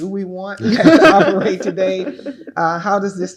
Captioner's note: laugh